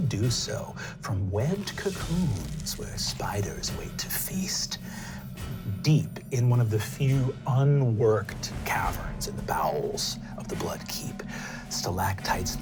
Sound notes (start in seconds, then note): none